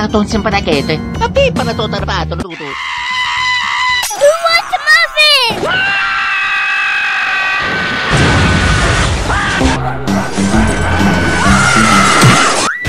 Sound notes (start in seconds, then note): 7.0 screaming; 10.7 screaming in fear